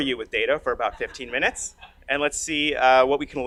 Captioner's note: audience laughs